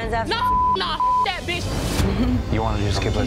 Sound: beep

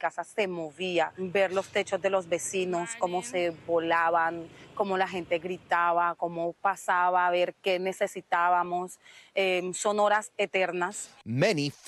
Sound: speaking non-english

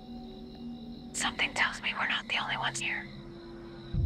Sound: whispering

